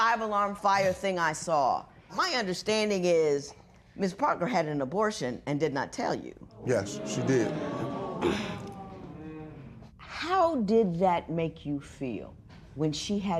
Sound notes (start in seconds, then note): 6.6 spectators murmur